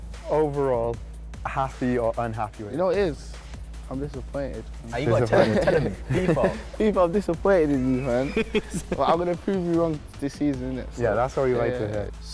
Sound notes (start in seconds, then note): 7.8 laughter